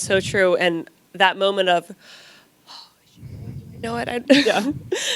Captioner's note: gasps